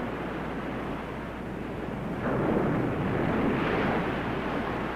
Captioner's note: waves crashing